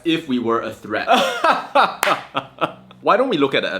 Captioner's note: laughs